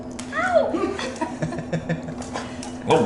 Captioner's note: laughter